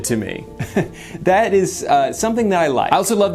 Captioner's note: chuckles